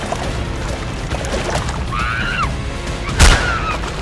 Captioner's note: elizabeth screams